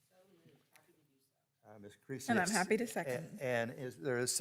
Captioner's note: murmurs